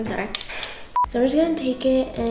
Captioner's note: soft beep